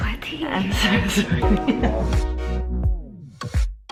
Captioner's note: laughs